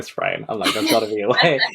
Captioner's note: laughs